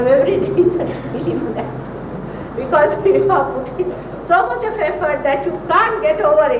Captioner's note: she laughs